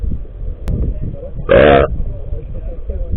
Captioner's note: fat burp